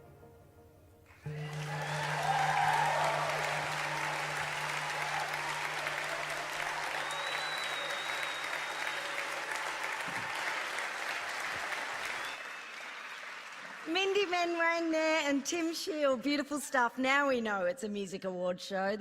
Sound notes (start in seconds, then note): 3.2 applause